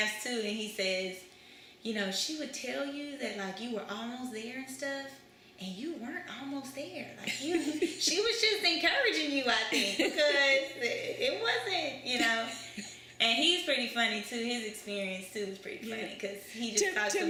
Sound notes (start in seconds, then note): 9.7 laughter